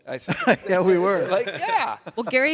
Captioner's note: laughs